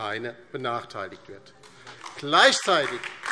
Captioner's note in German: Beifall DIE LINKE